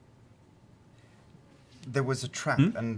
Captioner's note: none